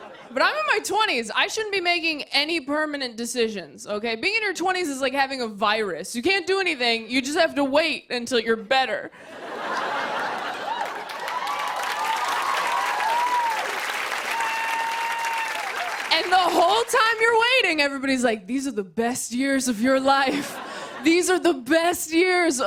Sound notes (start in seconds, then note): 9.1 laughter; 9.8 cheers and applause